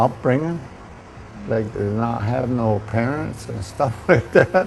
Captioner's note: ha ha